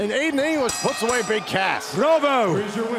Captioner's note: bell ringing